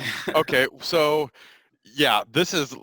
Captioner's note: chuckles